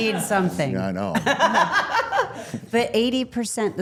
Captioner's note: all laughing